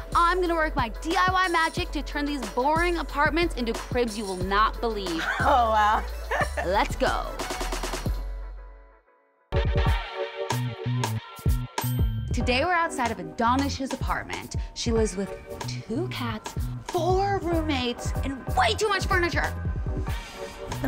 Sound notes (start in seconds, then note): 5.2 laughing; 8.3 upbeat hip music; 10.3 bell chimes